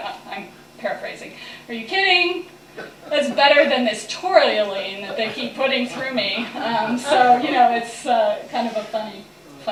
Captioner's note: laughter